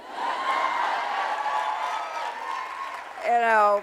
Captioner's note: audience cheering